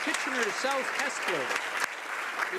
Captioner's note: applause